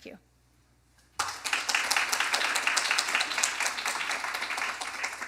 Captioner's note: applause